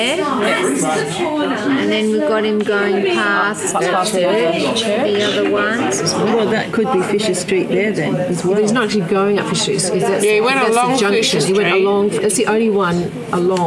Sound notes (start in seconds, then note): 0.1 audience chatter; 3.6 audience chatter; 11.1 audience chatter